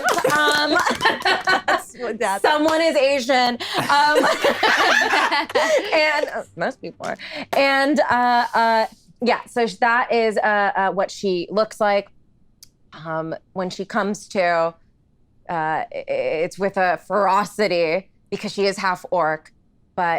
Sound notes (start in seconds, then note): 0.0 laughs; 3.6 laughs